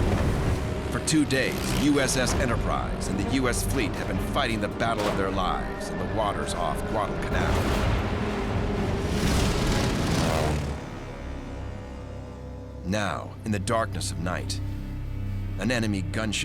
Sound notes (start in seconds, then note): 8.6 plane engines whining